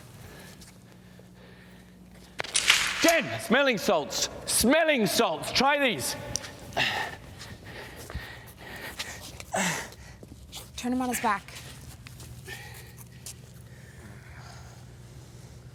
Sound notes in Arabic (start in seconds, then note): 6.8 يلهث; 9.5 روبرت يتأوه